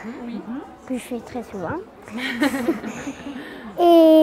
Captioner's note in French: rires